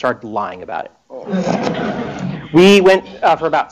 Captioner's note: laughter